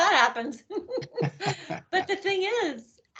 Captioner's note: laughing